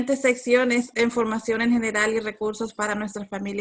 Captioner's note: speaking Spanish